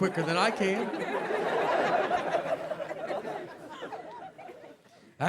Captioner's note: audience laughing